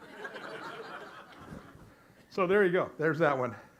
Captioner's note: audience laughs